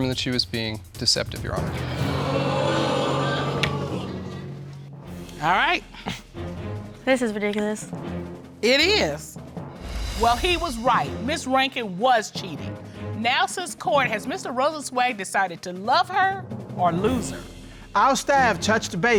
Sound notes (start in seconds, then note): 1.8 audience sighs